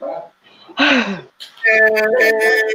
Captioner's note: sighing